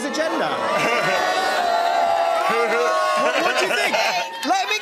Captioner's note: audience oohs